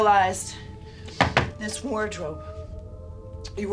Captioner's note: knocking on wardrobe